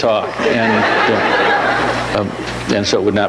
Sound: audience laughs

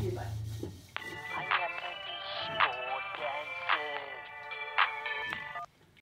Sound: phone ringing

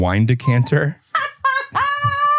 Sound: laughs

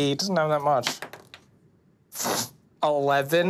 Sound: dice clatters

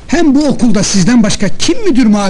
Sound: none

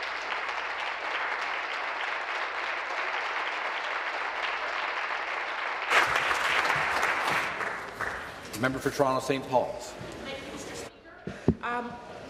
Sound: applause

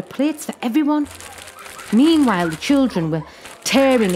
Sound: children giggle

